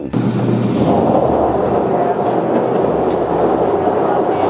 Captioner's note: machine grinding